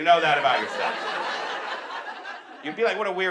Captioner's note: audience laughs